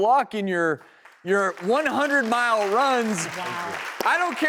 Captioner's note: audience claps